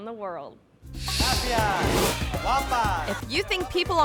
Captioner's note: person speaking in Spanish